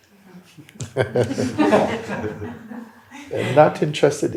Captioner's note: laughter